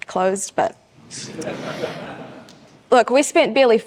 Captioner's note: audience chuckles